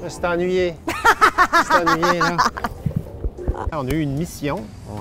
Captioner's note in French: rire